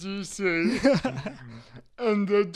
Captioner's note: chuckles